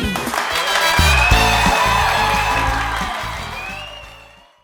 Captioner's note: crowd applauding